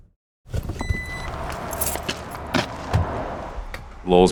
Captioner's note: car door beeps, shuts. feet shuffle on pavement